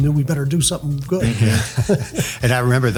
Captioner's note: laughs